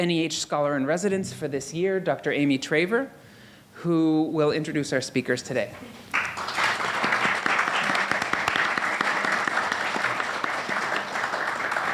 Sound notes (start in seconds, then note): 6.0 audience applauding